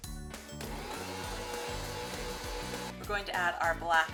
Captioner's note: mixer whirring